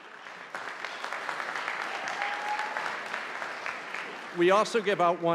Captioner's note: audience applauding